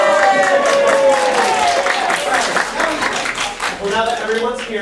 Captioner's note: applause